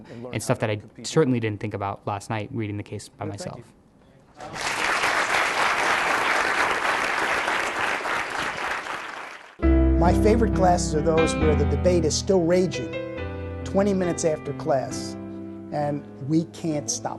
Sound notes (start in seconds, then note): 4.4 applause